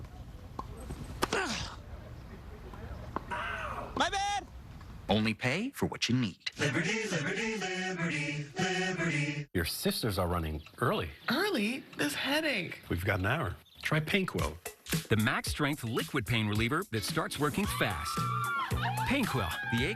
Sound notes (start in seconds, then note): 0.8 grunts